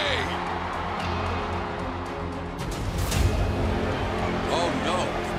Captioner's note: crowd cheering